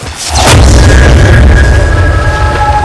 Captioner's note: Bursting sound